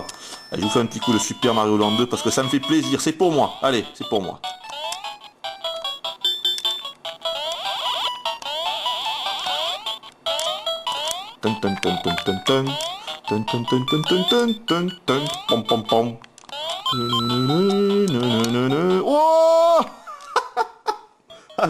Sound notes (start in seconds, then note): 11.4 hums the tune; 17.7 laughs